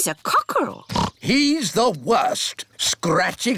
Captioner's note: oinks